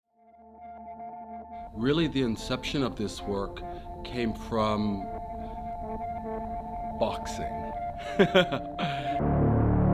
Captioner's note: laughs